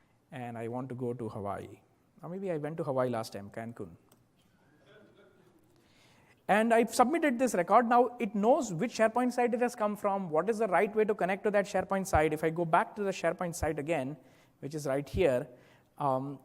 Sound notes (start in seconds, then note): 4.8 laugh